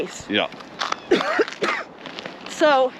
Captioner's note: coughs